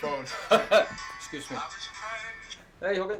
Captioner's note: laughs; phone chanting